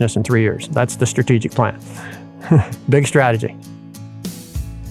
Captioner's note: laughs